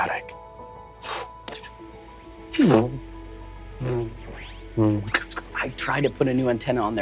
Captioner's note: mimics electric whirring